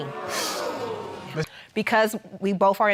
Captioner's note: exhales